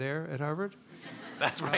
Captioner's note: laughter